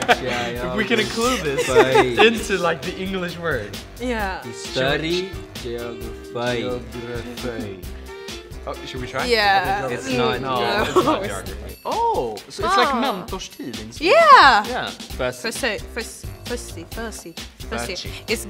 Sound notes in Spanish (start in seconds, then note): 11.4 dicen algo en sueco